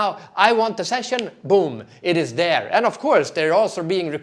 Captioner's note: snaps fingers